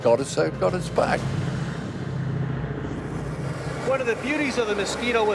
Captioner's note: jet engines roaring